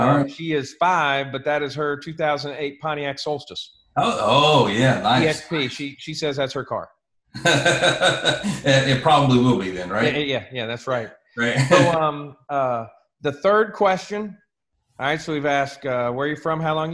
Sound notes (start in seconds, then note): 7.3 laughs